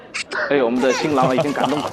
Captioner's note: tearing up